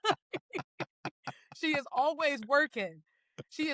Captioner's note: both Laughing